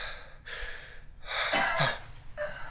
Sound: cough

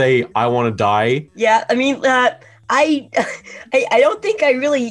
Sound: chuckling

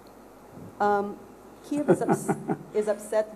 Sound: laughs

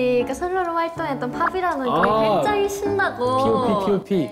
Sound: pop!

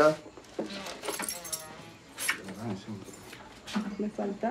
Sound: keys clinking

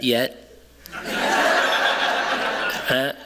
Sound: laughter

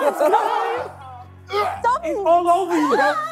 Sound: laughing; KSI gagging

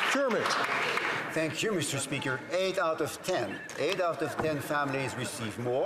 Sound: some Applause

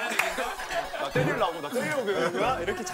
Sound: squabbling

